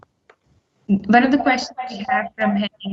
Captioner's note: network distortion